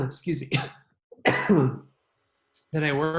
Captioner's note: coughing; coughs